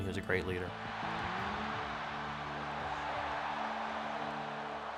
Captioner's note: crowd cheers